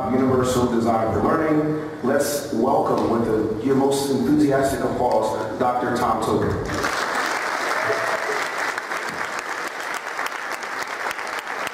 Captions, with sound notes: universal design for learning. Let's welcome with your most enthusiastic applause, Dr. Tom Tobin. [APPLAUSE]